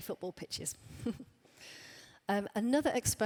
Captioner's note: laughs